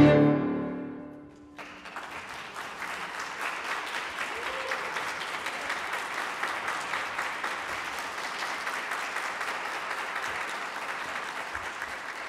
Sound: applause

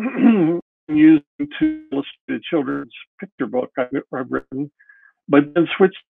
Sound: audio glitches

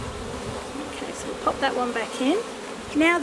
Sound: bees buzzing

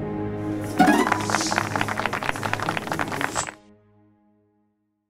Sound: applause

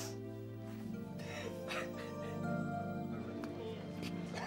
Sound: crying

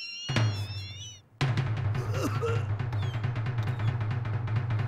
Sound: coughs and wheezes; groans

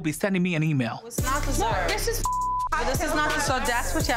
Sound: beep

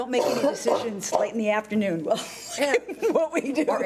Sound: laughing

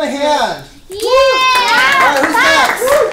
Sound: cheers and applause

